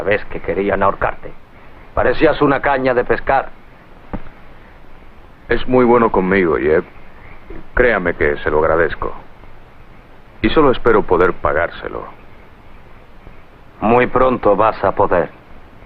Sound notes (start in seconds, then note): none